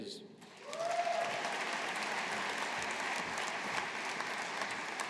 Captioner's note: audience applauding